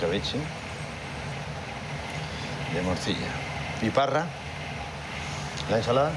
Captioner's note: speaking foreign language